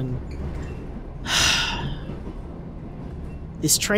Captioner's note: sighs